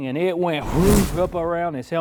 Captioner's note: swoosh